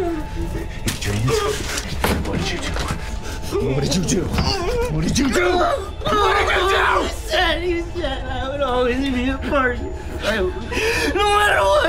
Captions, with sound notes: Adrian, what did you do? What did you do? What did you do? (SCREAMING) What did you do? You said-- you said I would always be a part of your family, no matter what!